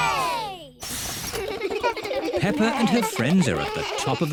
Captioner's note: all cheer